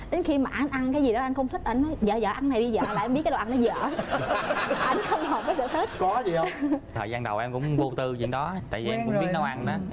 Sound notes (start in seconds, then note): 4.0 laughs